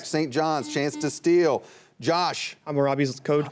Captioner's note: buzzer buzzing